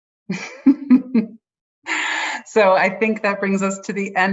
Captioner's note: laughs